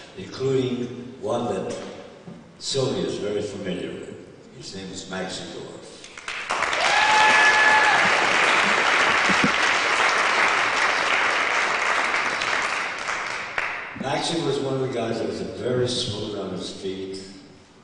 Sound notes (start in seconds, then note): 6.1 applause